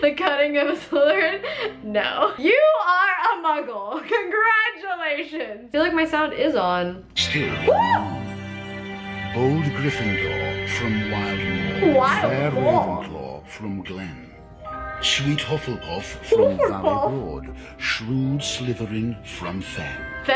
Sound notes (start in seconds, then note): 1.4 laughs; 7.3 yelps